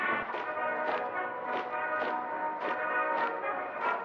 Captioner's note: steps clattering